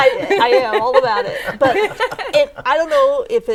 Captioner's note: laughing